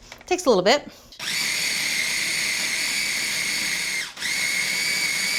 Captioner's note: food processor screeching